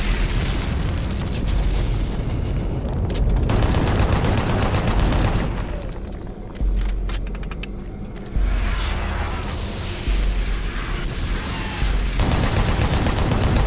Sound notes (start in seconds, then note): 2.1 gun firing